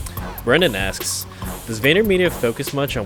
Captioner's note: voiceover